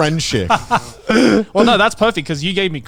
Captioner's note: laughing